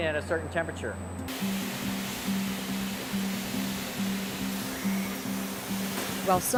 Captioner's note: machine Sounds